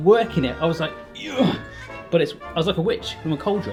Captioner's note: grunts